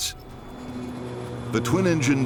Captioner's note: engines humming